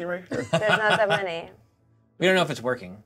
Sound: co-host laughing

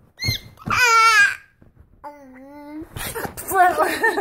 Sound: squealing

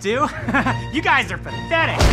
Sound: laughter

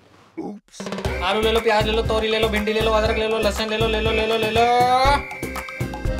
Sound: vegetable Itinerant Shouting

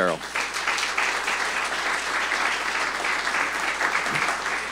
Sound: audience applauding

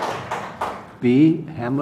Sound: applause

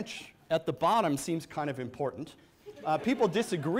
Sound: audience laughs

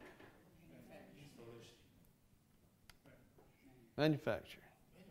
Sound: attendees talking off mic

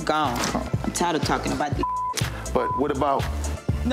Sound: beep

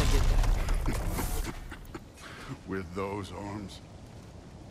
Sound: laughs

